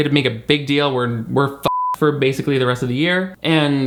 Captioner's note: beep